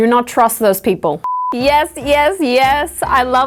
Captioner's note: screen beeps